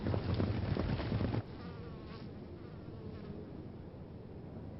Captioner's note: insect buzzing